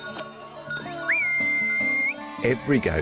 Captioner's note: whistles